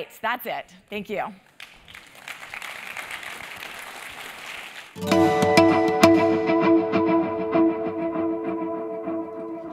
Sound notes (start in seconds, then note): 1.5 applause